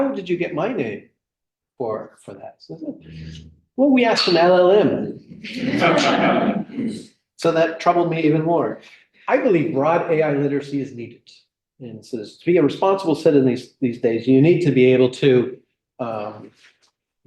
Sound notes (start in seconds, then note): 5.2 laughter